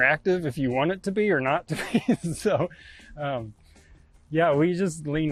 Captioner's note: chuckles